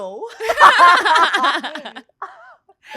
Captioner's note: laughs